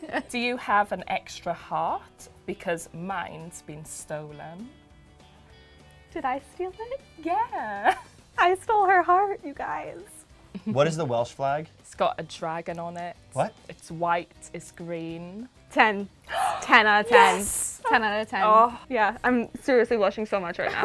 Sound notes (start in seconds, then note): 0.0 laughs; 8.0 laughs; 10.5 woman laughs; 16.2 woman gasps